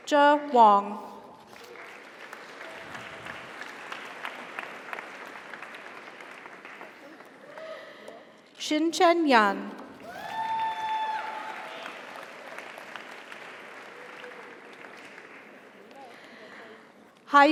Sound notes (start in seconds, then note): 1.4 audience applauds; 2.5 audience cheers; 10.0 audience cheers; 10.0 audience applauds